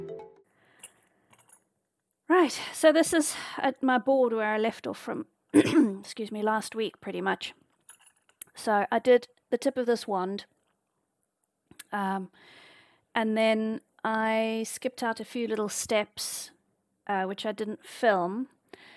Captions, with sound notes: Right, so this is my board where I left off from, *cough* excuse me, last week pretty much. So I did the tip of this wand and then I skipped out a few little steps which I didn't film.